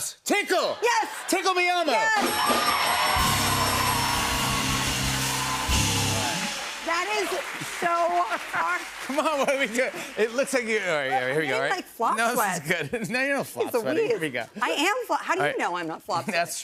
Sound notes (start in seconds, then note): 1.5 cheers and applause; 2.2 bell dinging